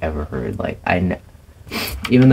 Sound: sniff

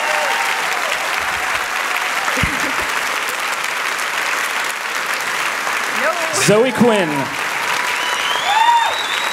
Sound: applause and cheers

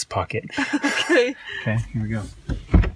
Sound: both laugh

